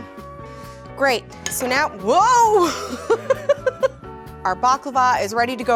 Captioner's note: laughs